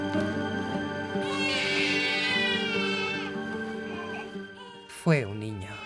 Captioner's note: baby shrieking